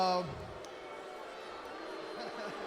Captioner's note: crowd cheering